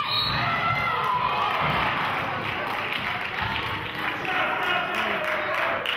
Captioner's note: whistle blows; clapping